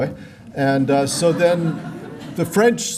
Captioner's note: laughter